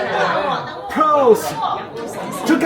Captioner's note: cheers